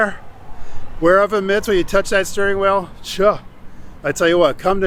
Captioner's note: scoffs